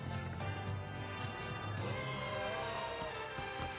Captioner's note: oohs and ahhs